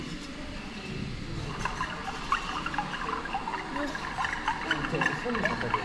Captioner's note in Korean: 옹달샘 물소리